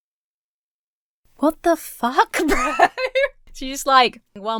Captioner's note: Emma laughs